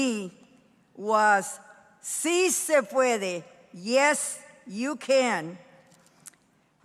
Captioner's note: speaking in foreign language